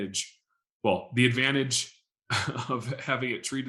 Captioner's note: chuckling